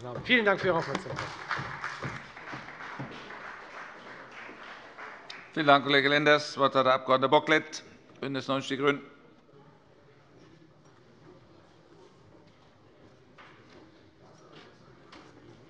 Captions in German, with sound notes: - Vielen Dank für Ihre Aufmerksamkeit. [Beifall bei der FDP und bei Abgeordneten der CDU] Vielen Dank, Kollege Lenders. - Das Wort hat der Abg. Bocklet, BÜNDNIS 90/DIE GRÜNEN.